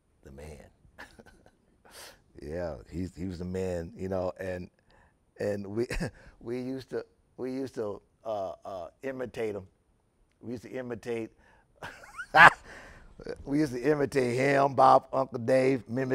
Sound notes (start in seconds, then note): 11.8 laughing